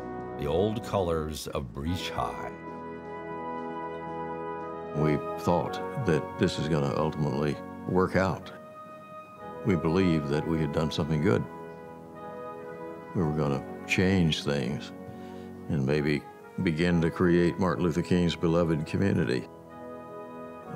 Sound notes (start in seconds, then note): none